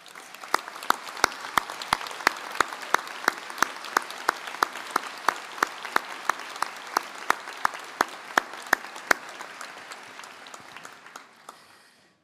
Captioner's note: applause